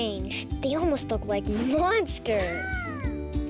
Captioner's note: chuckling